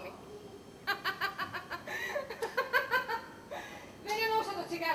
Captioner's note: σαρδόνιο γέλιο